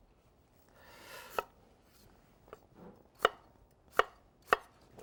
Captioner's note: knife thudding